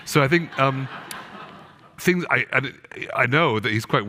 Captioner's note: audience laughing